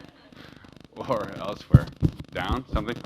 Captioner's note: laugh